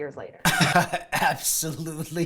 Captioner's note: laughter